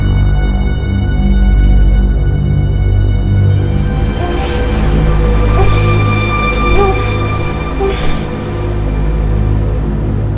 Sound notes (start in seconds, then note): 4.4 woman whimpering